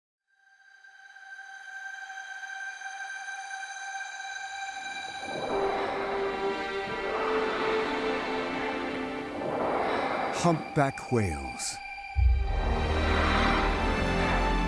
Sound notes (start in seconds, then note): 0.0 majestic music; 5.1 water splashing